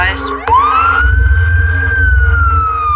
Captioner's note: sirs wailing